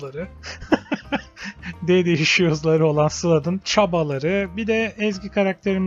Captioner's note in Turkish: kahkaha